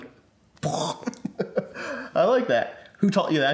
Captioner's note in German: lacht